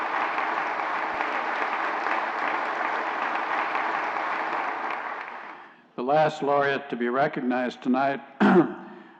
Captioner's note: applause